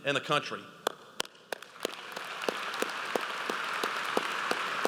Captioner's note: audience applauds